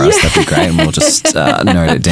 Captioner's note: chuckling